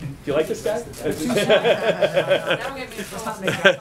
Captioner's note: laughter